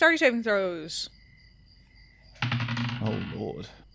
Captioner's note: dice clacks